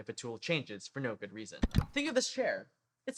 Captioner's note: click